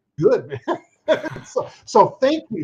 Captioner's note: chuckles